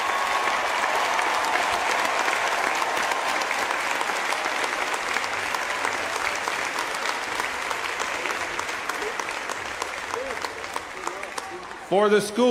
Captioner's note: applause